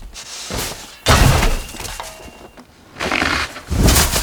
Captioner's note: snow crashes; shovel clinks; snow crashes